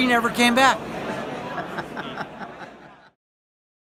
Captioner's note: laughs